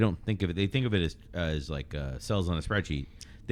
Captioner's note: uh